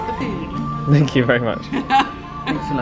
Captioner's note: laughing